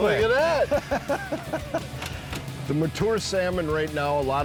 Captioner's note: laughs